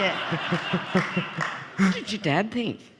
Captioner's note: all laughing